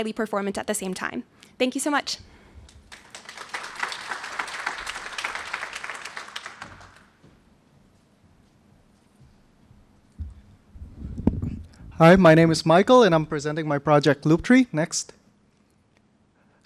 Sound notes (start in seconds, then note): 7.0 applause